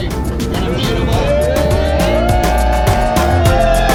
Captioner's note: cheers